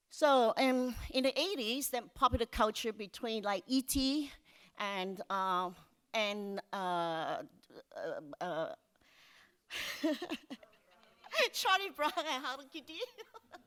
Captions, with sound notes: So in the '80s, the popular culture between E.T. and (laughs) Charlie Brown, how did you do (laughs).